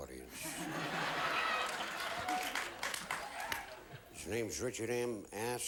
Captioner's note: audience laughing